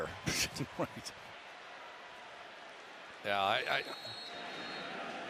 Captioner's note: chuckles